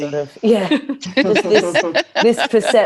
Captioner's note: laughter